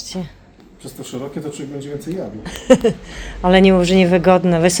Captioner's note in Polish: śmiech